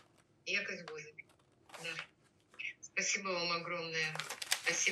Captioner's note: ukrainian